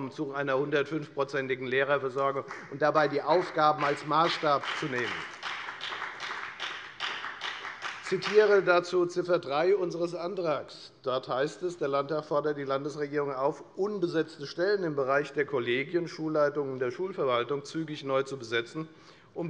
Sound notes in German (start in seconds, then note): 5.9 Beifall bei der FDP